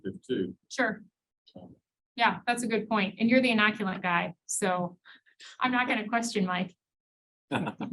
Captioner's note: laughs